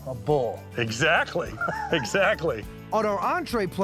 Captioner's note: laughing